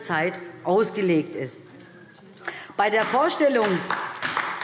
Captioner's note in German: Beifall DIE LINKE